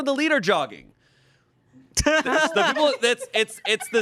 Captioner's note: everyone laughs